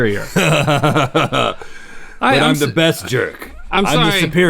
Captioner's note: laughing